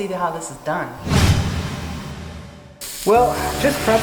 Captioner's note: whoosh Sound In